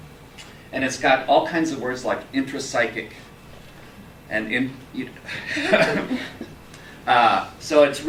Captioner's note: laugh